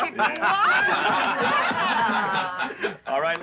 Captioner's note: laughing